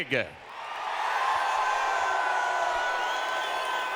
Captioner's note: audience cheering